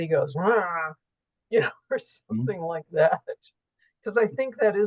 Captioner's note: grunts